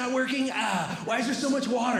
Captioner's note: groaning